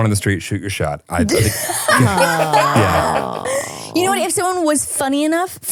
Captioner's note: all laughing